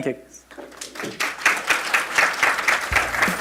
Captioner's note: applause